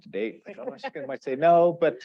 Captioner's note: laughs